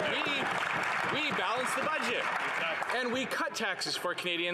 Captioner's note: some Applause